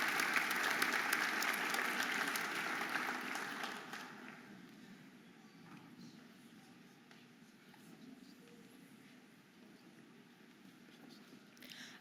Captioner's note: audience applauding and cheering